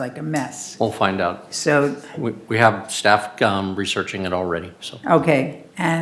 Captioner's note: speaking off microphone